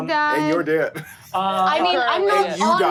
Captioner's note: laughs